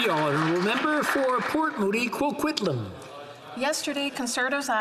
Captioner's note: some Applause